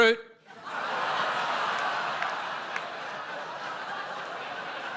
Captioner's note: audience laughs and groans